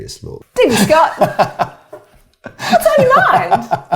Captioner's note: laughs